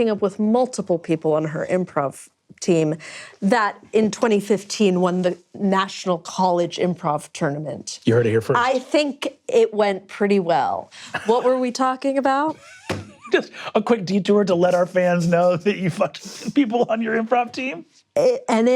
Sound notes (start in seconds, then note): 12.8 laughs